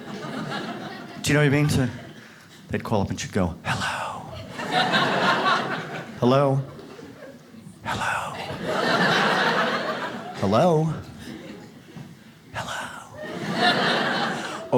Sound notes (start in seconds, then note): 0.0 audience laughs; 3.6 whispering; 4.3 audience laughs; 7.9 whispering; 11.1 audience laughs; 12.3 whispering